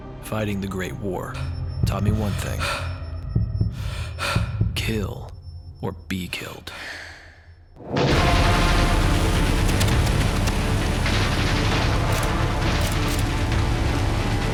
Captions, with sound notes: Fighting the Great War taught me one thing-- [heartbeat thumping] --kill or be killed. [gunshots] [dramatic music] [gunshots]